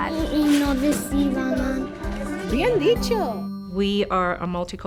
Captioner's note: speaking in foreign language